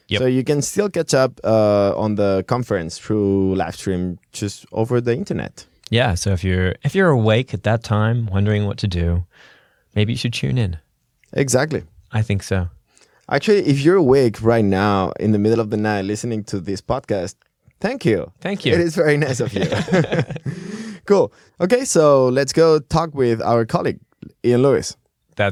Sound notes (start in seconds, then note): 19.2 laughter